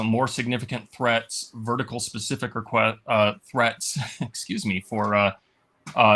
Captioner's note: laughs